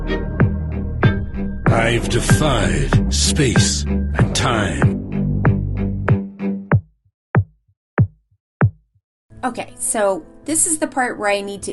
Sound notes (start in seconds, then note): 2.0 ominous Man Voice; 4.9 ominous music